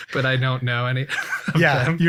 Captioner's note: laughs